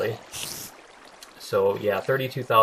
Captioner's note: spider hissing